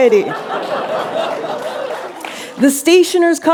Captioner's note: laughter